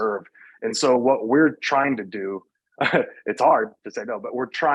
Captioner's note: chuckles